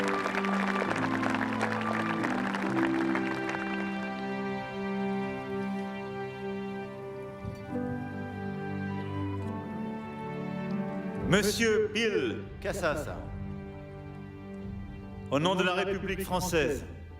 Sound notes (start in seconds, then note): 5.7 applause; 5.7 speaking french